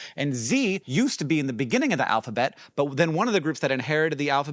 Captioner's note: none